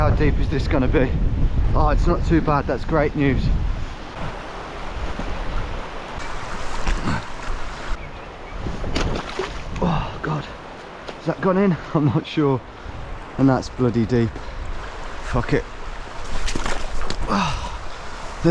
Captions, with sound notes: Okay, how deep is this gonna be? Oh, it's not too bad. That's great news. (water rushing) (water splashes) Oh, God. Has that gone in? I'm not sure. And that's bloody deep. Fuck it. (water splashes)